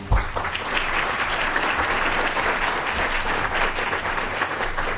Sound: applause

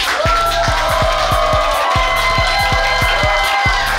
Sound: crowd cheers

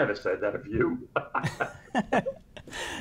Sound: chuckling

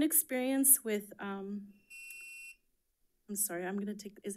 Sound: timer sounding

